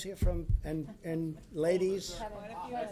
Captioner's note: laughter